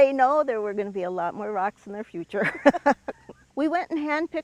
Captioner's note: laughs